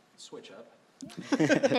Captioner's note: chuckling